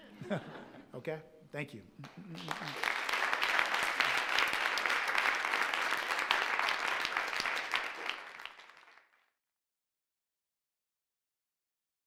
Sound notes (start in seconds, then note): 0.1 all chuckling; 2.0 all applauding